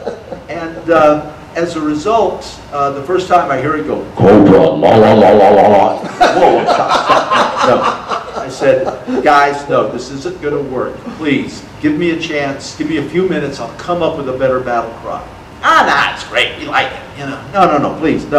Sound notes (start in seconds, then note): 0.0 audience laughter; 6.0 audience laughter